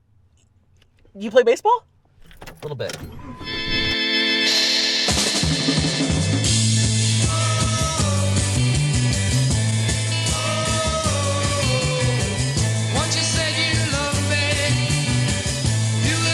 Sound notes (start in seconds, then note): 3.6 car starting; 4.9 rock and roll music